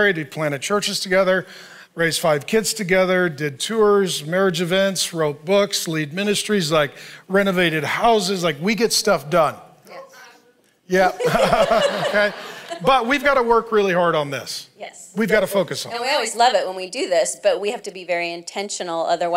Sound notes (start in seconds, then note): 11.0 laughs